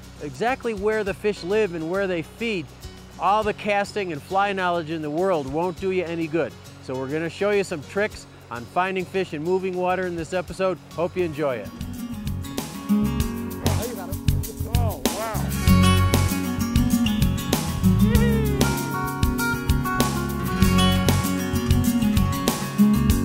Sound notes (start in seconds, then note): 12.8 light music; 17.9 gleeful laughing; 20.5 light music